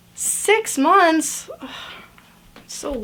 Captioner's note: groans